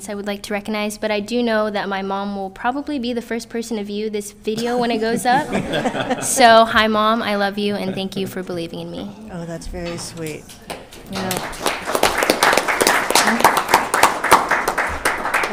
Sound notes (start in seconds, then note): 4.6 all laughing; 10.4 crowd applauding